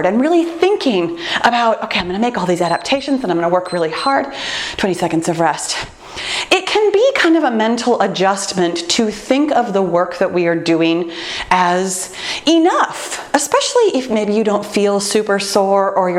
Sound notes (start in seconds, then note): 3.6 timer beeps